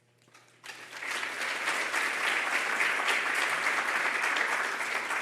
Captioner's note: audience applauding